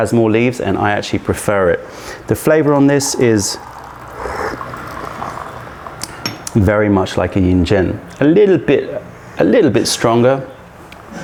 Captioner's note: sips tea